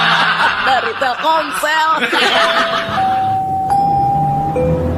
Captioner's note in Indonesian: tertawa